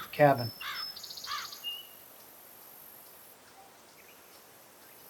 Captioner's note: birds cawing